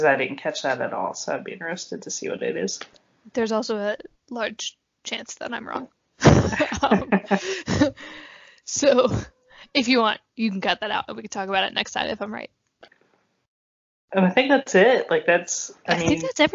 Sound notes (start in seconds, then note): 6.2 both laugh